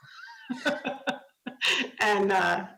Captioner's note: laughs